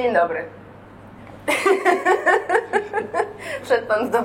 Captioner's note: laughs